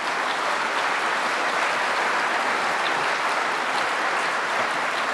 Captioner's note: applause